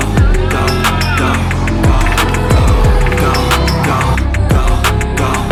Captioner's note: our members cheering 🖤